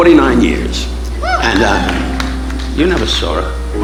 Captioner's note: audience applauding